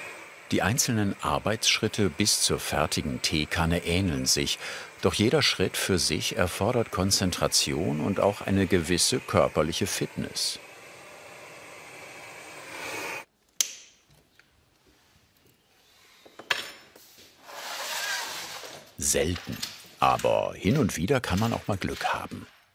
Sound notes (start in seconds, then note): 10.8 hissing; 12.9 cracking